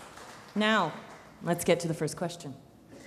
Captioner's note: crowd applauding